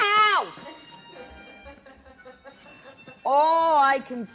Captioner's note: laughter